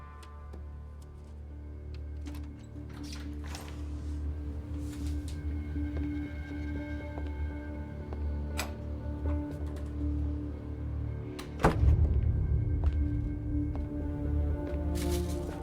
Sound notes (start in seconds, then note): 0.2 suspenseful music; 6.3 footsteps thudding; 11.5 door thudding